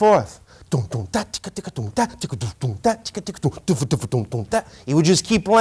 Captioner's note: imitating drum sound